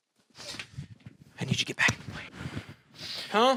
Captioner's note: Nick, whispering